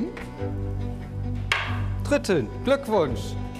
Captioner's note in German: Hammerschlag